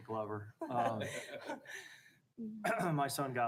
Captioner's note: people laughing